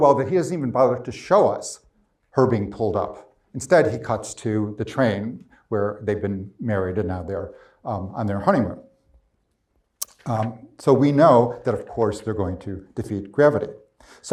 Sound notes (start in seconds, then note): none